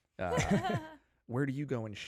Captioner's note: all laughing